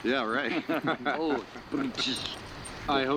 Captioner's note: laughing